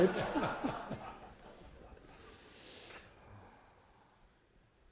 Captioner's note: laughter